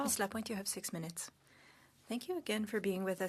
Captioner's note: speaking French